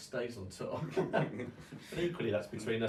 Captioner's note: both men laugh